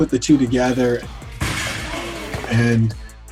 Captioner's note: ball slamming